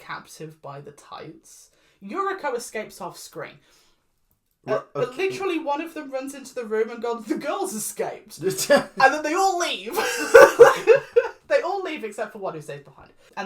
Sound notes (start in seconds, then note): 4.6 confusion noises; 8.4 laughs